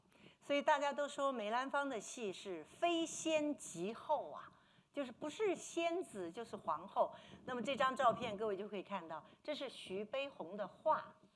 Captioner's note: speaking Mandarin